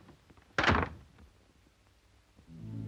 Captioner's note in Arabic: يغلق الباب